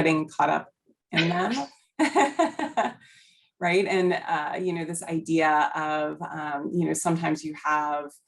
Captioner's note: laughter